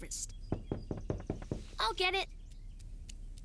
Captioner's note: knocking on the door